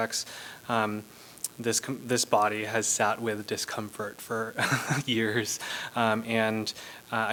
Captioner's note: laughter